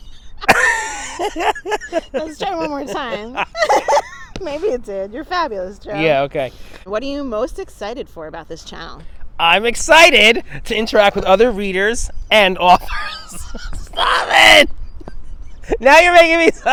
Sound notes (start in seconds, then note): 0.3 laughs; 9.1 excited voice; 12.8 laughs